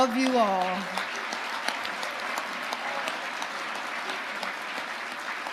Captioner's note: audience applauding